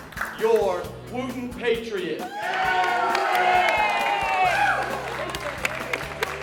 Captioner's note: cheering